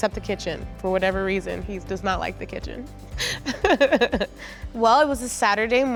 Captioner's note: laughs